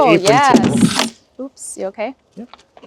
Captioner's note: log thudding